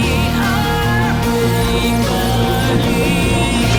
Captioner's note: laser sound